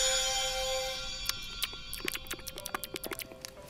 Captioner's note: chewing sound